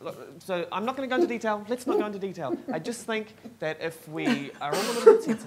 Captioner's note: rambling; laughs; laughs